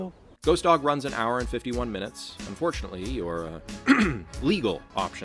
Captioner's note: clears Throat